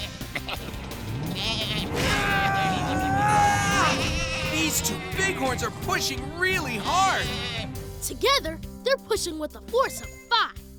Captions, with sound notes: [straining] These two bighorns are pushing really hard! Together, they're pushing with a force of five,